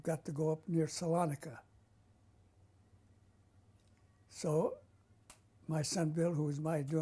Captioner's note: pauses for 3 seconds